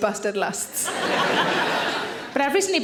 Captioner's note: audience laughing